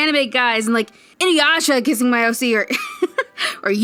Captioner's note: laughs